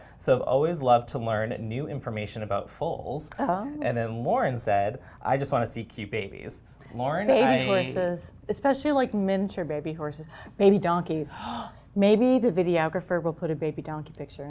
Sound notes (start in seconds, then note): 11.3 gasp